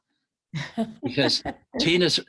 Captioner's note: laughs